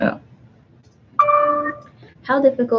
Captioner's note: computer dings